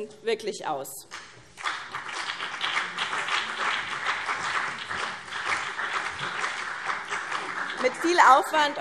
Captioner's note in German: Beifall BÜNDNIS 90/DIE GRÜNEN und vereinzelt CDU